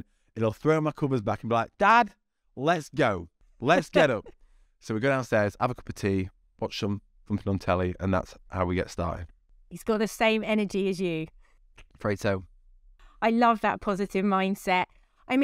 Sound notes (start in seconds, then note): 3.6 giggling